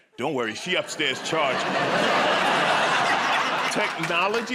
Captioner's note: laughter